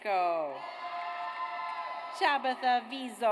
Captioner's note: audience cheers